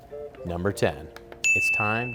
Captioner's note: dinging